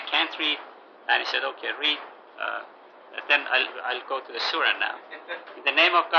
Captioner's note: gülüyorlar